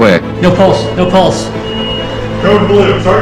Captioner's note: machine beeps